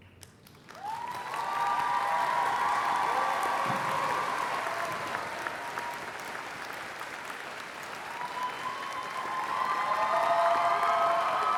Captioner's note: applause